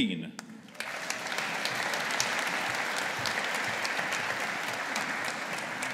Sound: audience applauding

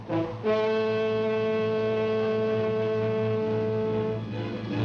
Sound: horn blowing

